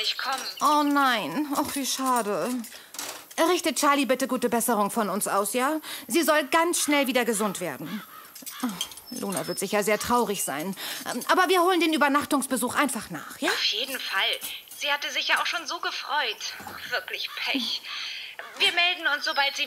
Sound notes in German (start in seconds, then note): 8.4 Seufzt; 13.1 über Telefon